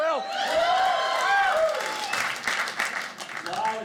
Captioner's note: audience cheering